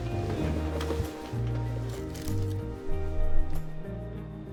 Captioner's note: bed rustles